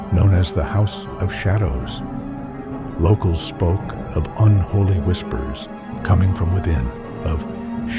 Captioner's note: unholy whispers